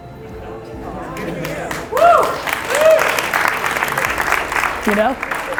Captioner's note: audience applauds